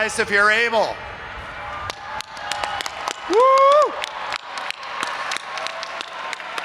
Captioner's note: audience applauding and cheering